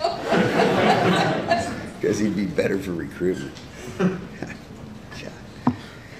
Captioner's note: laughter